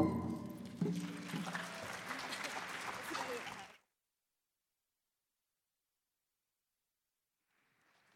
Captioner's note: applause